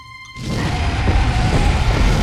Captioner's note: roars